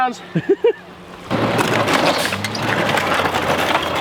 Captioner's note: laughing